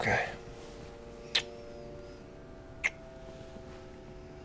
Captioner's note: kisses